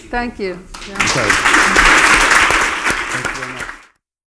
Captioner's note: applause